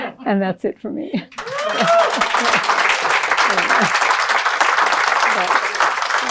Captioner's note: applause